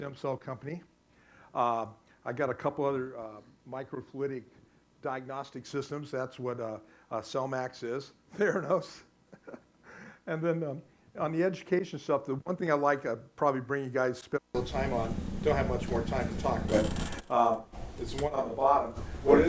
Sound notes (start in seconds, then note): 9.3 laughing; 14.5 static